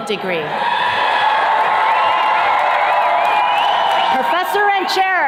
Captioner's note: attendees cheers and claps